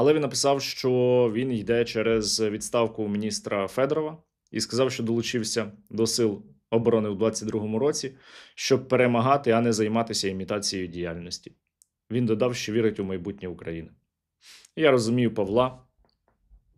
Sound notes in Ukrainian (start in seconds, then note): 14.4 сопіння